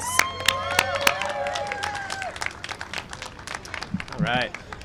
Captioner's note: cheering and applause